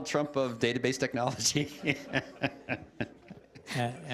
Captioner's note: laughter